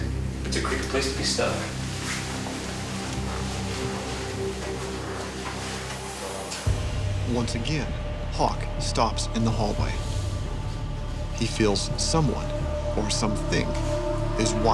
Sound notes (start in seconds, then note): 7.2 voiceover